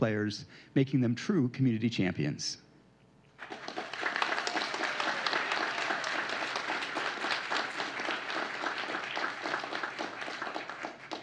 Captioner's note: applause